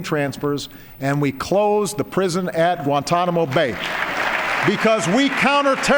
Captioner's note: applause